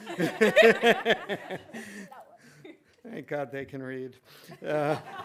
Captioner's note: laughing